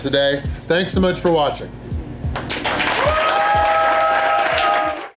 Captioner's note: crowd clapping and cheering